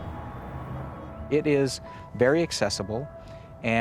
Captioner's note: traffic humming